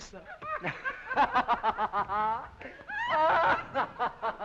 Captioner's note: boisterous laughing